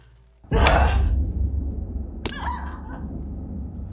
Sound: woman grunting

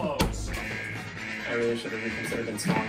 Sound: alarm ringing

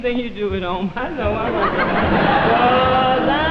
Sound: audience laughing

